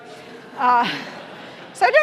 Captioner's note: audience laughing